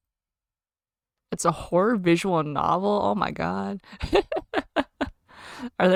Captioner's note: laughs